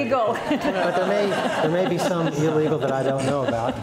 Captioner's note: laughs